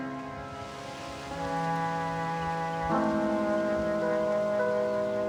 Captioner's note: leaves rustling